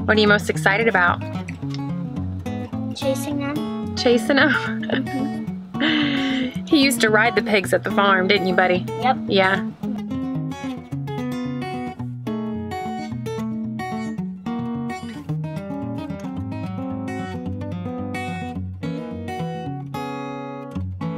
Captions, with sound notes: - What are you most excited about? - Chasing them. - Chasing them (laughs). He used to ride the pigs at the farm. Didn't you buddy? - Yep. - Yeah. (guitar music)